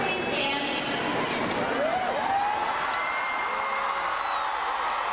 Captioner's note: crowd cheering